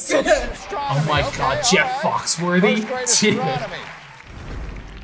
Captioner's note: laughs